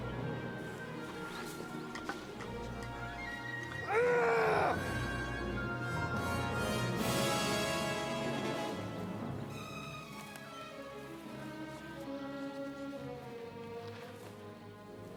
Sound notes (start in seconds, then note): 3.9 Eric yells; 5.5 dramatic music